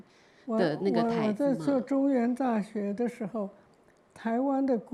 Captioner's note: Mandarin